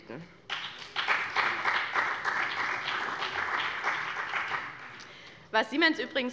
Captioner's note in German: Beifall bei dem BÜNDNIS 90/DIE GRÜNEN und bei Abgeordneten der CDU